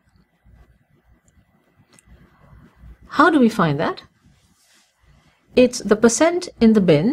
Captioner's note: pause